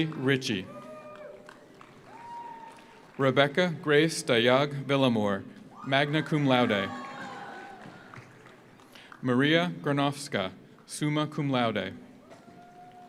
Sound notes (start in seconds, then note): 0.8 audience applauds; 1.7 audience cheers; 5.7 audience cheers; 5.9 audience applauds; 12.2 audience cheers; 12.3 audience applauds